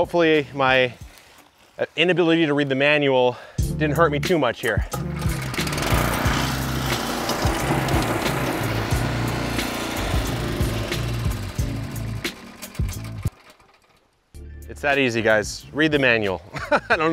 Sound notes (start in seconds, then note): 5.3 tiller engine whirring; 7.1 light music continues; 16.5 laughing